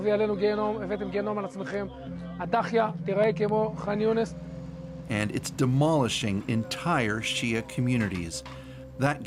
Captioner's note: speaking alternate language